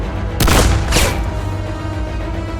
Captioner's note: dramatic music; gun firing; dramatic music